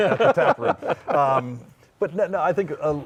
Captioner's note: laughing